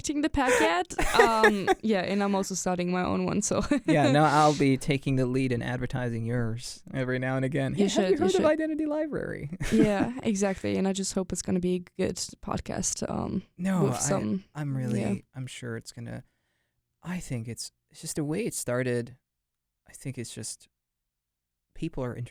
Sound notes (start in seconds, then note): 3.7 chuckles